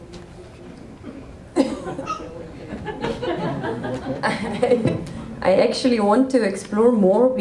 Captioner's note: laughter